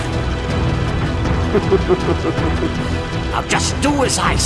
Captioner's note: laughs